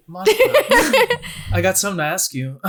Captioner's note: laughing